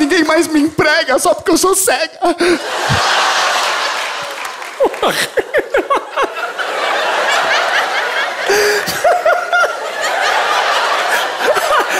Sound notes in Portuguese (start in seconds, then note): 5.4 risos